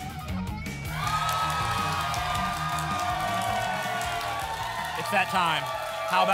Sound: applause and cheering

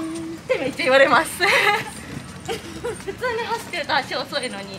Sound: laughs

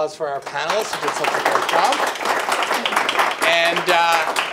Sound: audience applause

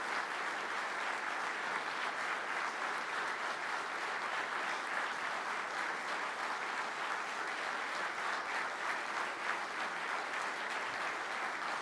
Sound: applauding

